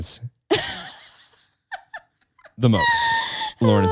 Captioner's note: laughs